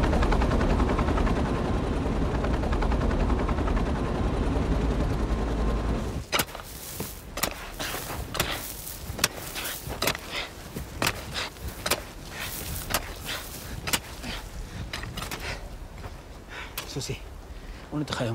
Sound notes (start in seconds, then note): 9.2 panting